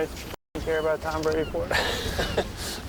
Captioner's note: both laugh